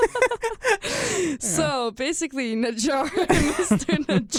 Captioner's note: both laugh